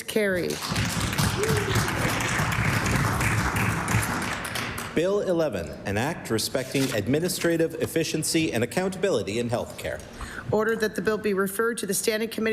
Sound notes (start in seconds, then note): 4.4 applause